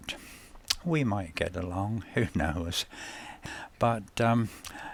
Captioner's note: chuckles